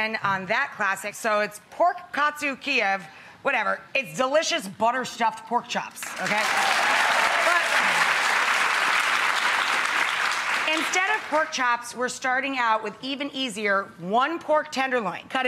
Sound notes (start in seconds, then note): 6.0 audience applauding